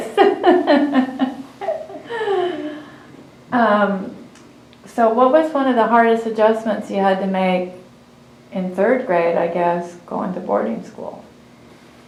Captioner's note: laughs